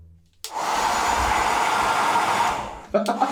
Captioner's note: hair dryer operating